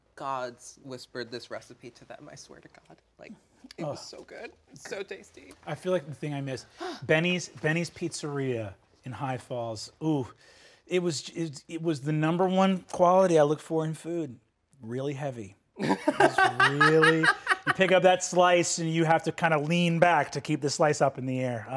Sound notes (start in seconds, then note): 15.8 laughing